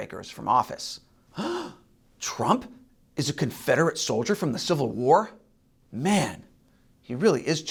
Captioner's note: gasp